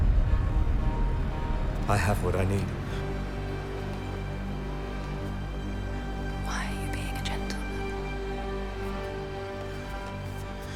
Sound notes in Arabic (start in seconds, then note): 5.9 همس